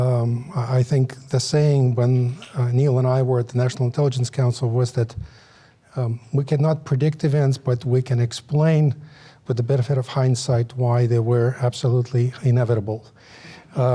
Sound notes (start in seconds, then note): none